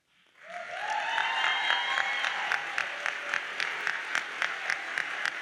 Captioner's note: audience cheers and applauds